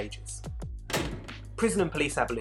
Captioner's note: bars slamming